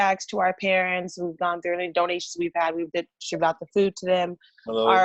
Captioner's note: murmurs